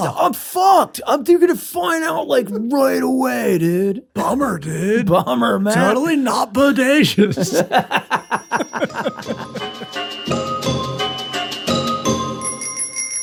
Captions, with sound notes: I'm fucked, they're going to find out like right away, dude. Bummer, dude. Totally not bodacious. (laughter) (upbeat music)